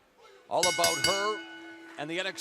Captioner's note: bell ringing